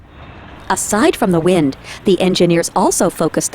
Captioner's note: voiceover